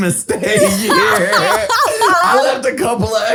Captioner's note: all laughs